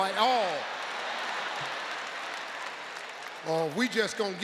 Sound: audience applauds

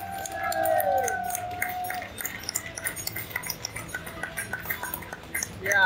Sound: crowd clapping

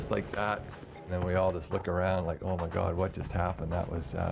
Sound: voiceover

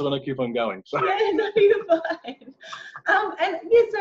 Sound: laughing

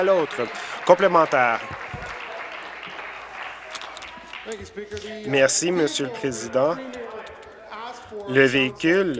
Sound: applause

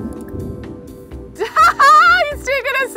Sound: laughs

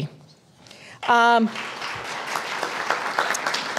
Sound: applause

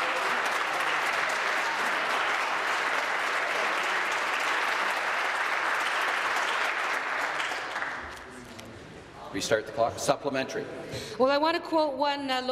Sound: applause

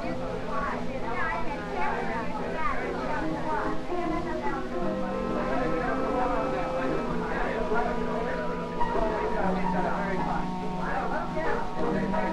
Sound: voices and music heard from downstairs

